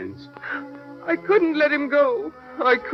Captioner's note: crying